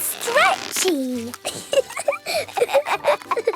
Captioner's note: both laughing